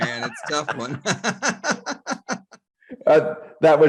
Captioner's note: laughing